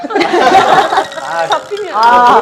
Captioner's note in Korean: 하하하하하하하하하하하하